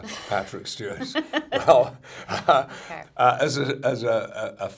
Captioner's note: laughs